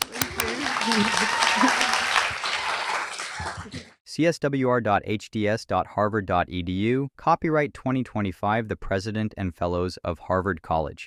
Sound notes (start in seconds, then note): 0.0 cheers, applause